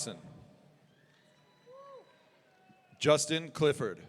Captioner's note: audience cheering